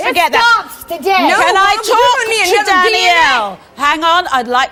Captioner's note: yelling